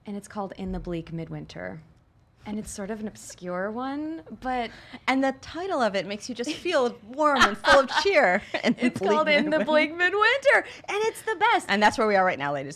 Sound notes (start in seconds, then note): 9.4 everyone laughs